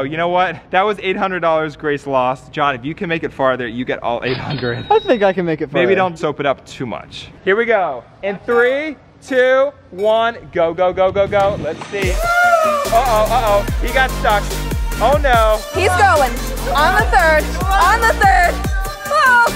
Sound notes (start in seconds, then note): 12.1 whooping